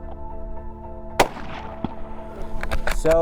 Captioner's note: gunshot